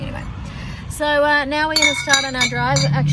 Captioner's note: glass clinks loudly